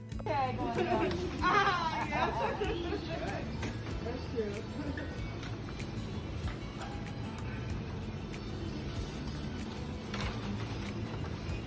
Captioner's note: kitchen chatter